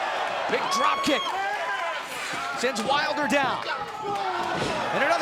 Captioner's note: crowd cheering